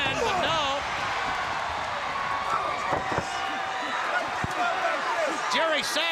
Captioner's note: crowd cheering